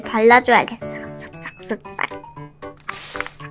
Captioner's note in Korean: 쓱싹쓱싹